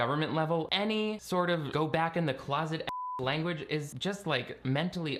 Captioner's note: beeping